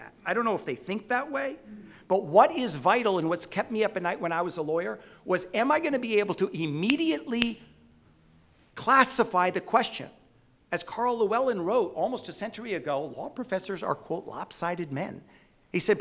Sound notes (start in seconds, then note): 7.4 snaps fingers